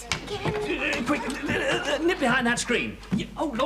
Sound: stammers

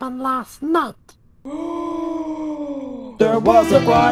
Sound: both cops gasp

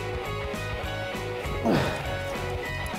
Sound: grunt

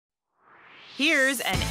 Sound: swoosh

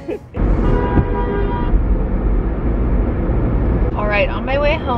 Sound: laughs; car horn honking

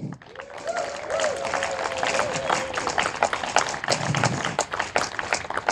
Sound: audience applauding and cheering

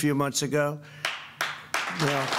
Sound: applause

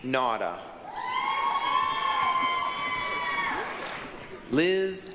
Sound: applause, cheering

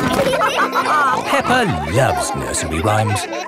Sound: all laughing

